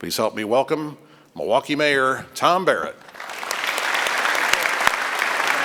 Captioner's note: applause